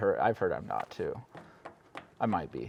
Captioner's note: cue cards tapping